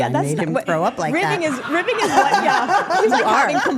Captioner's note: group laughing